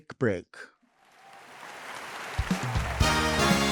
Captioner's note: audience applauding; upbeat music